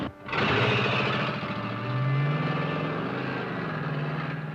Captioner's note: engines revving